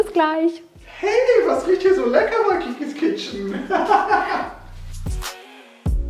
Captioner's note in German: lacht